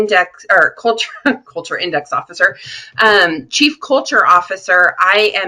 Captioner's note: laughing